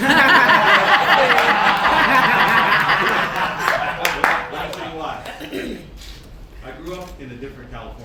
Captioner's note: laughter